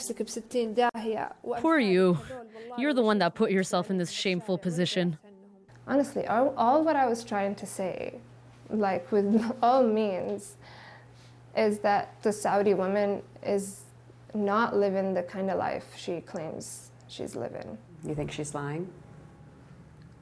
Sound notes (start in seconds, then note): 3.4 speaking foreign language